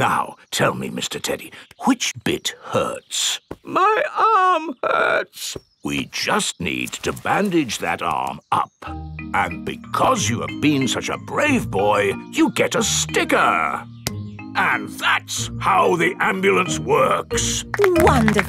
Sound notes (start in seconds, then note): 4.1 in teddy's voice; 6.3 in normal voice